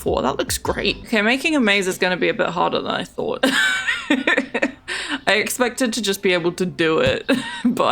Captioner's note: laughs